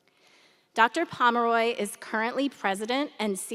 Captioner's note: none